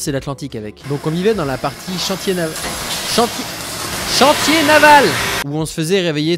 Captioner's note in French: Bruits de travaux